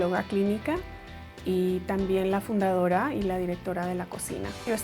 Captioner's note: upbeat music; speaking in Spanish